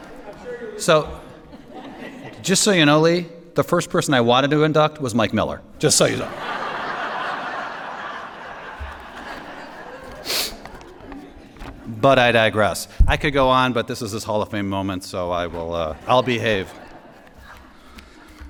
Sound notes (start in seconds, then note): 6.2 laughter